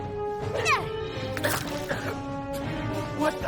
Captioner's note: coughing